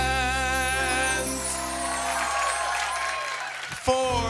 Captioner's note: cheering and applause